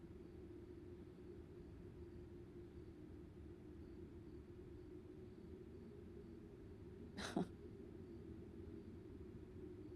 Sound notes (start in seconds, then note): 6.8 chuckles